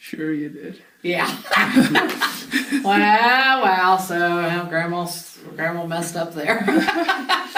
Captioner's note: both laugh; both laugh